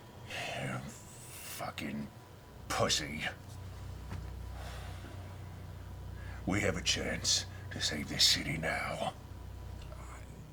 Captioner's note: sighs